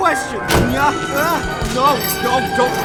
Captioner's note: machine whirring